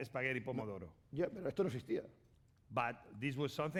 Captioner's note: speaking spanish